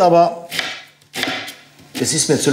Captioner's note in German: Laute Schneidegeräusche